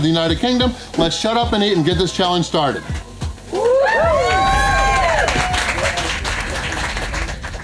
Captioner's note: crowd clapping and cheering